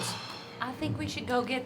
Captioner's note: sighs